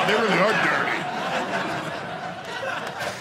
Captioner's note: audience laughing